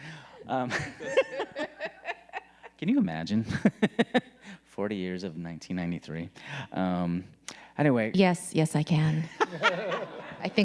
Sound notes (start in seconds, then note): 0.3 people laughing; 4.0 laughing; 9.2 people laughing